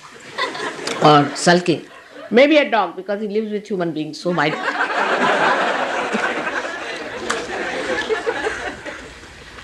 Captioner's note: laughter